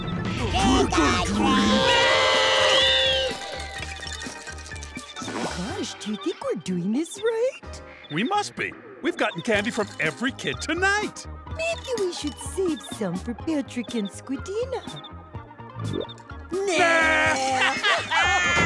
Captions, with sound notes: Trick or treat. [screaming] Gosh, do you think we're doing this right? We must be. We've gotten candy from every kid tonight. Maybe we should save some for Patrick and Squidina. Nah. [laughing]